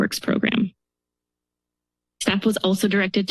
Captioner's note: pause